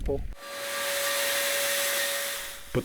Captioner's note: steam Engine